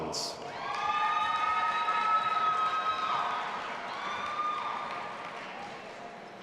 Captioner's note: audience applauding and cheering